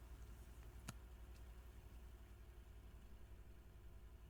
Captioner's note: mouse clicks